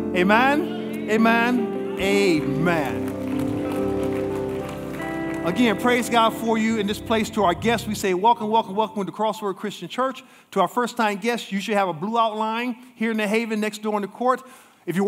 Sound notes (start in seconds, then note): 3.4 congregation applauding